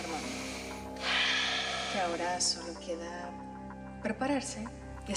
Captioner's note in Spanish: Exhalación profunda de él